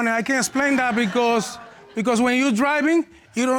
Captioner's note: audience exclaims